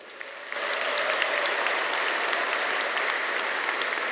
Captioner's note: audience applauding